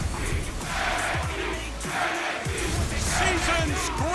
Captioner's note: crowd cheering